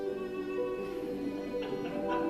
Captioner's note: laughter